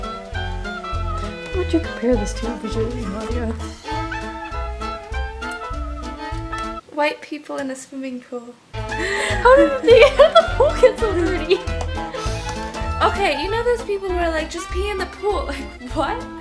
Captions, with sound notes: What would you compare this to visually, Nadia? White people in a swimming pool *laughing* Okay, you know those people who are like "just pee in the pool", like what?